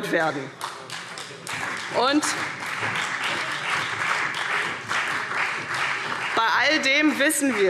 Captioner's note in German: Beifall CDU und vereinzelt BÜNDNIS 90/DIE GRÜNEN